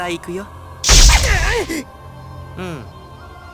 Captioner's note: strained grunt